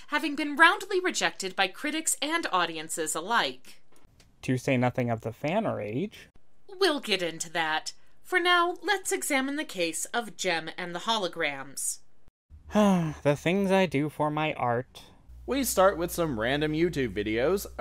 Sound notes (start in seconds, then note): 12.7 sigh